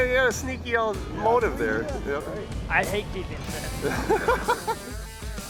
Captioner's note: laughing